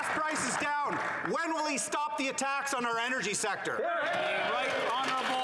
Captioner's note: applause